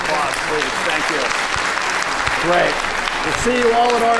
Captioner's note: audience clapping loudly